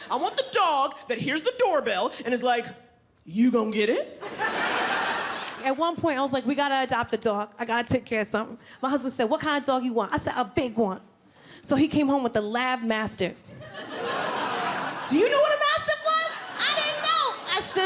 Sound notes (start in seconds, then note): 4.2 audience laughing; 13.6 audience laughing